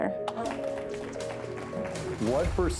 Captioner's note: clapping